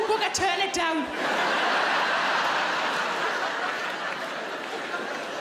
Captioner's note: audience laughing